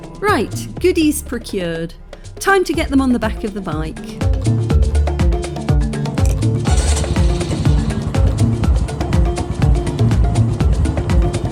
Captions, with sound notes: Right, goodies procured, time to get them on the back of the bike. [African percussion] [Engine starting]